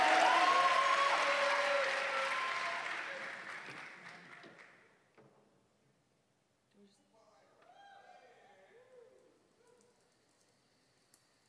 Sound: cheers and applause

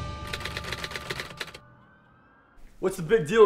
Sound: typewriter clacking

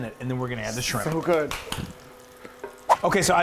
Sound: clapping

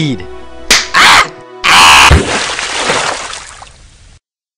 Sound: splash

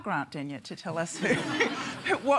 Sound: laughter

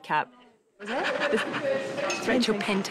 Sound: panting

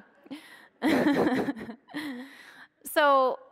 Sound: laughing

